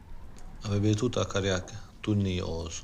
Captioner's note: speaking romanian